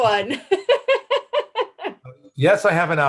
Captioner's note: laughs